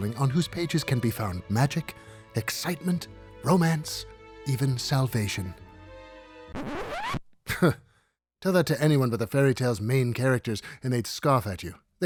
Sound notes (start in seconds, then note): 6.5 record scratching; 8.0 scoffs